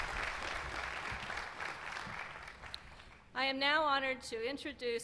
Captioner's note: applause